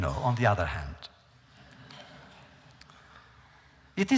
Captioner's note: laughter